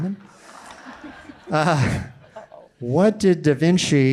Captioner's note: audience laughing